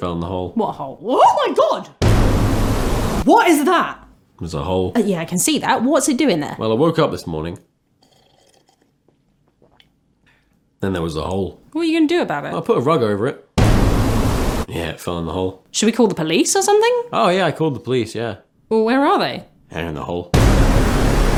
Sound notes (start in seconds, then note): 1.7 dramatic sting; 7.3 long slurp; 13.2 dramatic sting; 20.4 dramatic sting